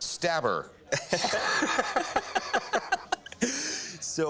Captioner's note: laughter